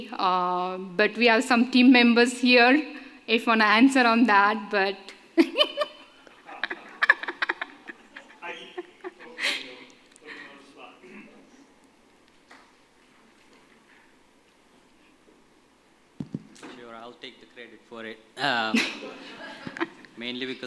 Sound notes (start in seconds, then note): 6.4 laughter